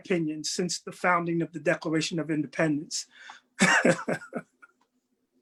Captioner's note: laughs